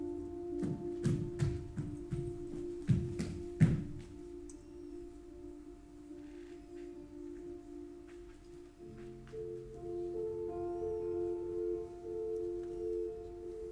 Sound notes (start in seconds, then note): 0.3 footsteps thumping; 9.2 bright, gentle music continues